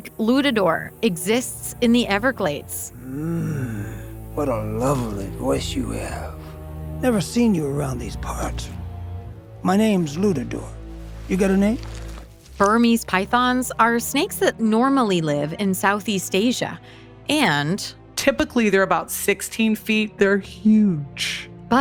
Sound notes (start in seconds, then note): 3.0 Lutador moaning; 3.0 ominous music